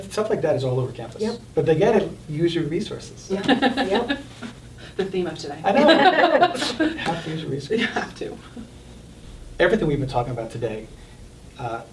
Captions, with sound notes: that is all over campus. - Yep. - But again, use your resources. (group laughing) - The theme of today. (all laughing) - Have to use your resources. - You have to. - Everything we've been talking about today,